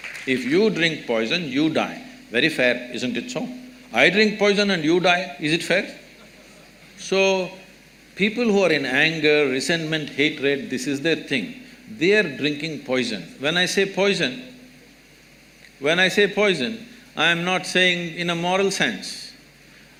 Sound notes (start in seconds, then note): 0.0 applause; 6.4 few laugh